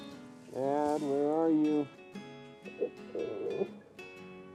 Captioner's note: groans